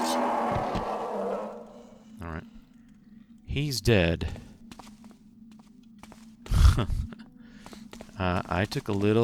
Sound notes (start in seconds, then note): 5.7 chuckles